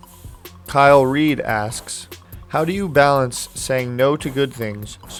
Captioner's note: voiceover